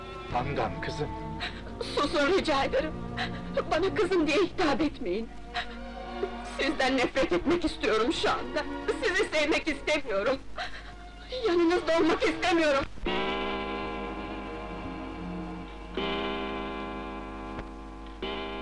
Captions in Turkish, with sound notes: Handan, kızım! Susun rica ederim, bana kızım diye hitap etmeyin! Sizden nefret etmek istiyorum şu anda! Sizi sevmek istemiyorum. Yanınızda olmak istemiyorum. [Duvar saatinin saat başı vuruşları]